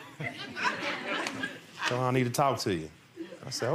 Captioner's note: laughing